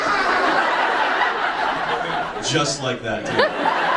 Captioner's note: audience laughs